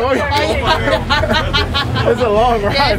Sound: people chattering; people laughing

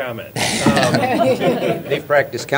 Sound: laughter

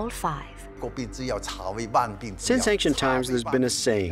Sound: speaking Chinese

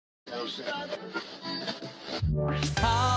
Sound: radio frequency tuning

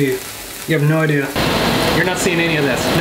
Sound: fan roaring

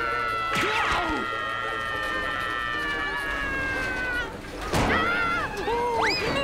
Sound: screaming

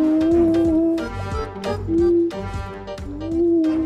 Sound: comical music; humming

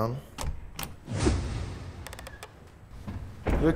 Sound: door opens

